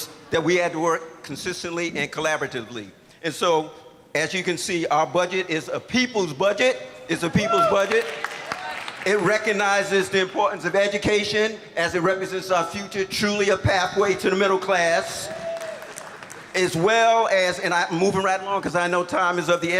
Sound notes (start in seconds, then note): 7.6 applause; 15.3 applause